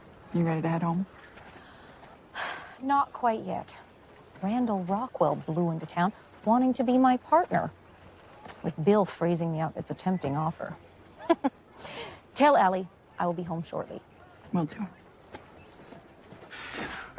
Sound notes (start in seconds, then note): 2.4 sighs; 11.2 laughs